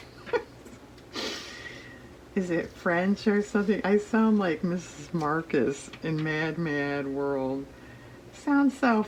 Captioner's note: laughs